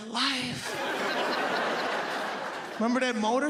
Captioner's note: audience laughs